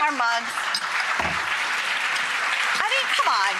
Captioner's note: audience cheers